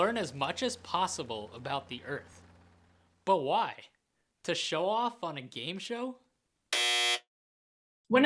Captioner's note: buzzer